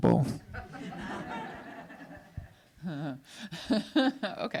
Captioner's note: audience laughs